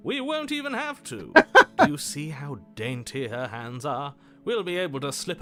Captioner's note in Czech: smích